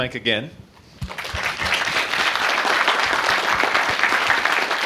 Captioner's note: applause